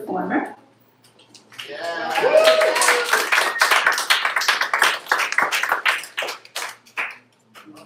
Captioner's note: applause